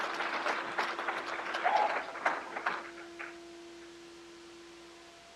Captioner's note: crowd applauds